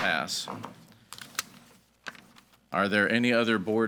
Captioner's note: gavel bangs